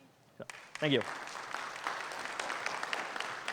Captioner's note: audience applauds